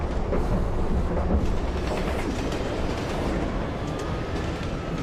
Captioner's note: train rattling on rails